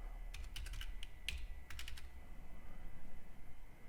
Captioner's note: typing